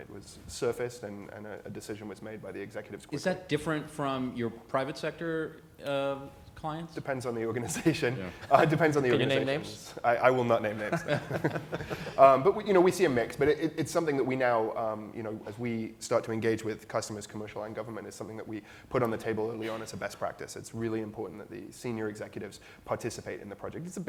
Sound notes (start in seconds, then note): 7.6 laughs; 10.8 laughter